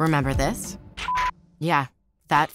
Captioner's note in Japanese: ビープ音